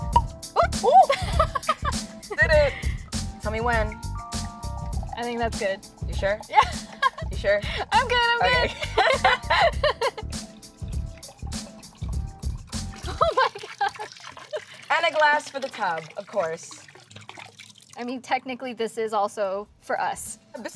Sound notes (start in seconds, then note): 0.0 cork pops; 6.5 laughs; 10.0 both laugh